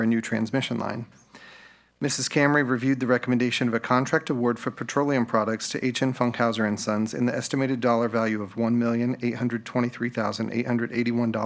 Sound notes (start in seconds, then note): none